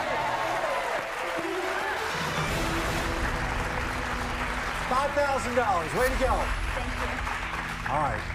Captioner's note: cheers and applause